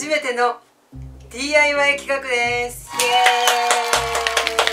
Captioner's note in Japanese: 拍手